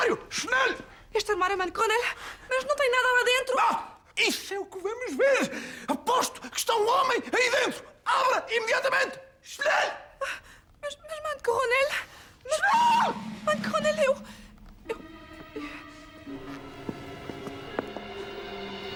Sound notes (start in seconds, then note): 11.7 Von Block bellows a "Schnell"